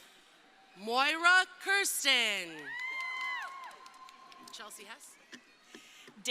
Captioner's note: crowd cheering